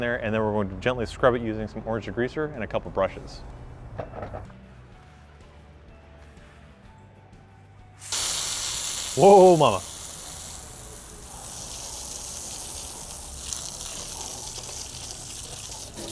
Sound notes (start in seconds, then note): 3.9 soft music; 8.0 water spraying